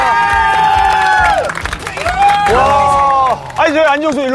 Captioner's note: cheering